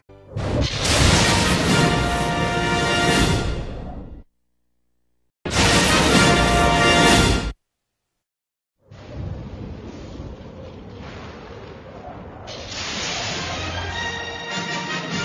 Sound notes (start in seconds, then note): 0.6 lightning crashing down as rousing fanfare plays; 5.5 electricity zapping as rousing fanfare plays; 9.0 thunders rumble; 12.6 lightning crashing down as rousing fanfare plays